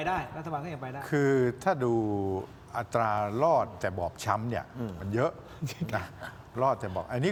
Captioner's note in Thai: เสียงหัวเราะ